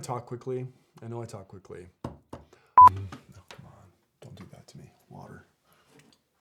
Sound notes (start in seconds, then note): 2.8 transition beeps